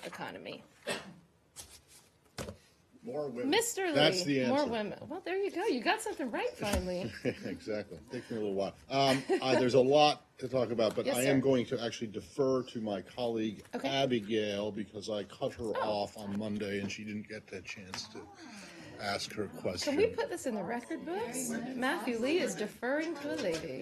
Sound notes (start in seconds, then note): 9.0 laughter